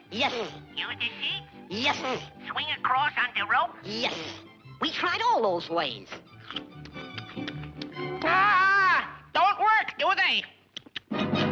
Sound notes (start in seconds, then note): 6.4 carrot crunching